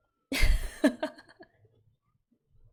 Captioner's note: laughs